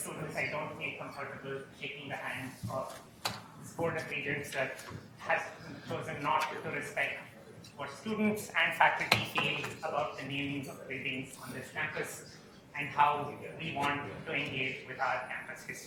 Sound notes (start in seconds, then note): 0.2 attendee speaking softly; 6.2 attendee speaking softly; 12.2 attendee speaking softly